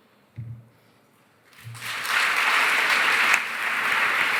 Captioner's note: applause